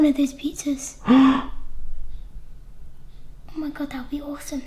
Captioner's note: gasps